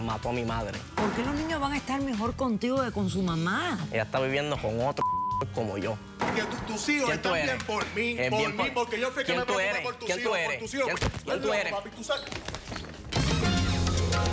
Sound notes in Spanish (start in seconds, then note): 5.0 Bip